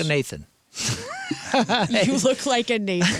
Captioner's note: laughing